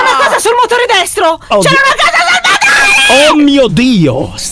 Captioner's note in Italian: urlando